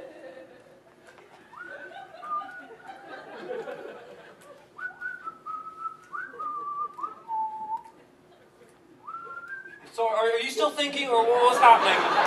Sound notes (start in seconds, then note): 1.2 continues to whistle excitedly